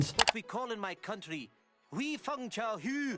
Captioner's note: speaking Mandarin